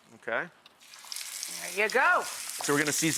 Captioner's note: chicken sizzles